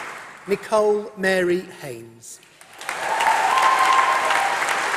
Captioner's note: applause